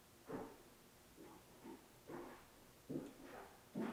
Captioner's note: none